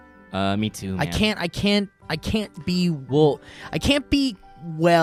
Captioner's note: stutters